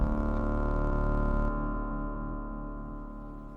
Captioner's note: bass rumble, title card